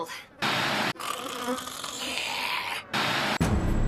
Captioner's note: snores